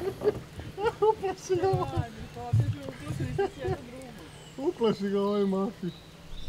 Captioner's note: laughs